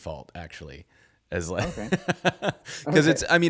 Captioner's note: laughing